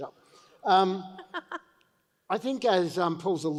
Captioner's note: laughs